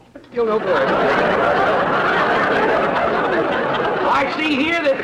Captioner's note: audience laughter